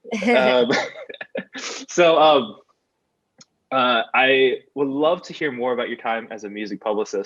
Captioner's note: laughs